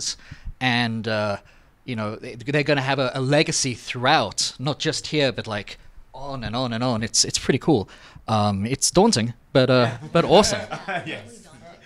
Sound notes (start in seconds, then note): 9.8 laughs